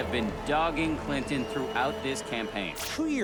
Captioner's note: crowd cheering